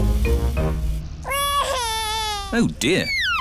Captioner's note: crying